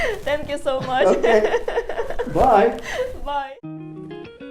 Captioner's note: laughs